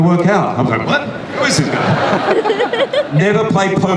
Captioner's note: audience laughs